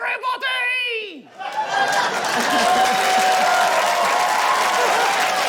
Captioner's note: laughter, cheering, applause